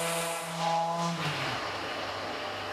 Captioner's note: quiet machine whirring